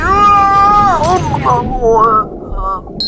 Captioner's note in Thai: เสียงร้องจ๊าก; เสียงแก้วแตก